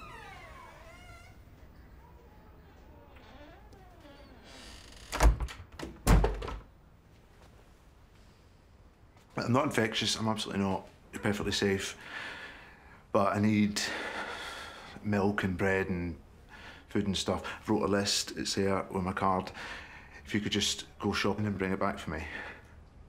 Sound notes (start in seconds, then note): 0.0 door creaking; 5.1 door shuts